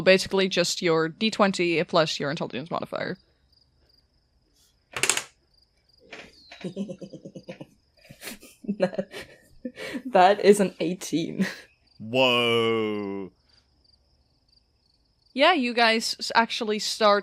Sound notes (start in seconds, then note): 4.9 dice clacks; 8.0 snickers and laughs